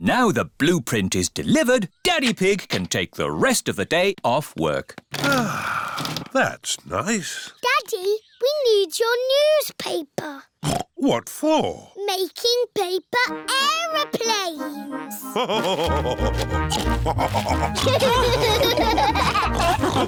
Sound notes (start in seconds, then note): 5.2 sighs; 10.8 snorts; 15.3 laugh and snorts; 17.8 all laughing